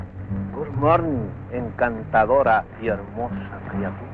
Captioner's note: General Tostada speaking in Spanish